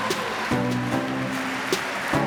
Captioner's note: applause